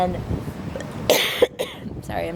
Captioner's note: coughing